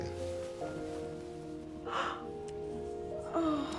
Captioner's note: gasping